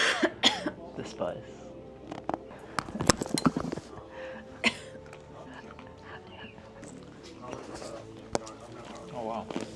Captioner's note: haha